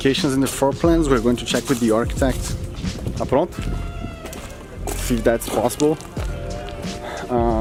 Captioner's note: in portuguese